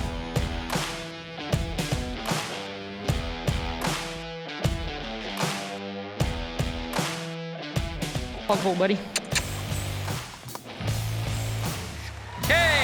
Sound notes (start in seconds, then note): 10.1 squeaks